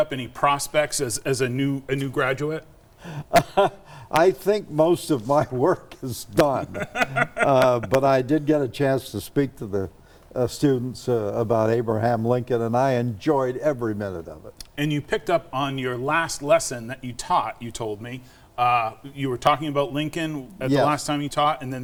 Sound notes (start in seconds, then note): 3.7 chuckles; 6.6 laughs